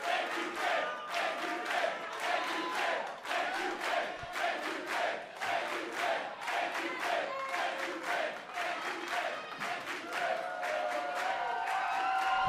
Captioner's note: fans chanting